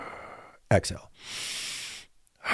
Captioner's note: inhales and exhales